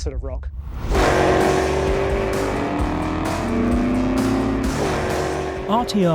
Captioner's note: car engine revving; rock music